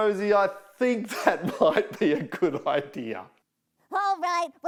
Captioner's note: laughing